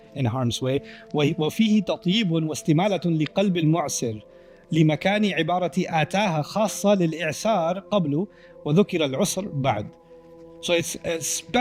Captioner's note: Arabic